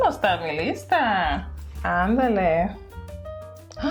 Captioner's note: Spanish